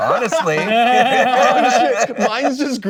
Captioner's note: hosts laugh